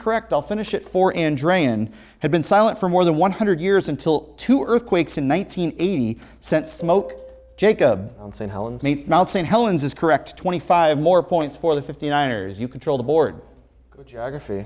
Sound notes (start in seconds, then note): 6.6 ringing